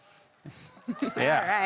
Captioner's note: laughing